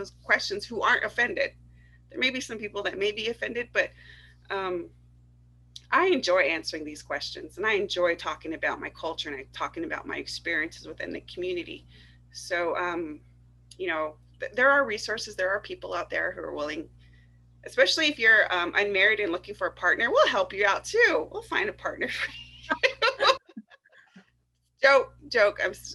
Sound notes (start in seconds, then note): 22.2 laughter